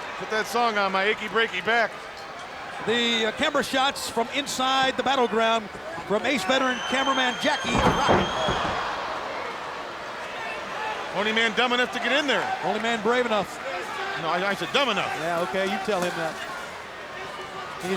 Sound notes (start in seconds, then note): 7.4 crowd groans; 7.6 body slamming